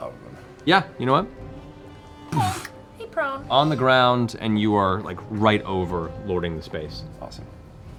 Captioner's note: impact sound